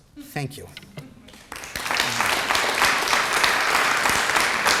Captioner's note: applause